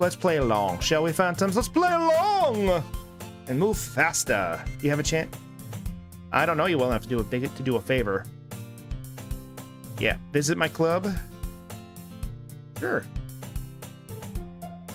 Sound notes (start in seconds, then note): none